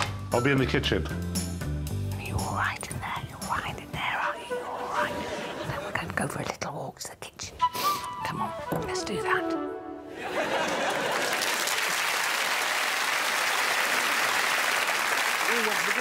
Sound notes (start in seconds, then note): 2.3 whispers; 7.6 sniffs; 10.3 audience cheers and claps